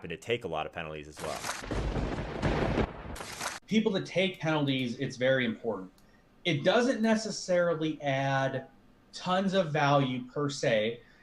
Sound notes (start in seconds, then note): 1.2 lightning striking